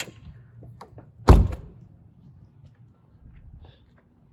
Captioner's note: car door shuts